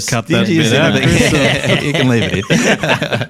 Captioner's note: all laughing